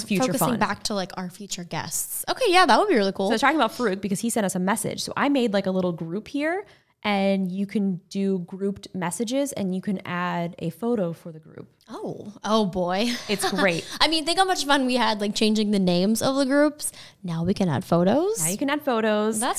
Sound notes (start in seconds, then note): 13.1 laughing